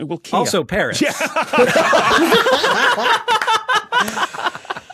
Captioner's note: group laughing